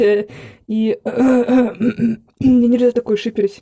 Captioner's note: uncomfortable cough